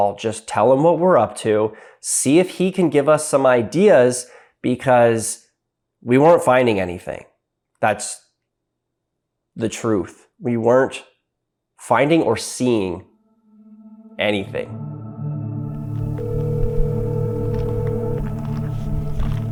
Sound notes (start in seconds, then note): 14.9 soft music; 15.6 phone ringing